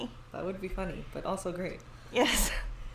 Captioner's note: laughs; laughs